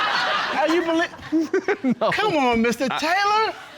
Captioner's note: laughing